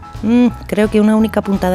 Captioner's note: none